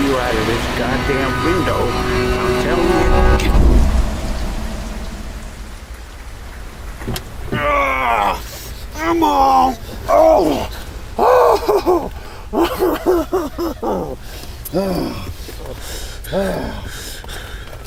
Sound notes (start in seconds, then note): 4.2 car engine revving; 7.5 groaning; 11.1 crying